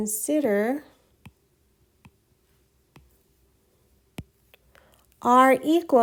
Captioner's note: writing Sounds